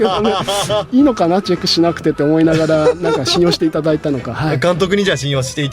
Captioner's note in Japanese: 笑い